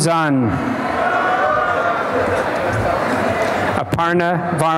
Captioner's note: applause and cheering